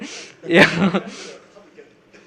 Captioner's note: laughter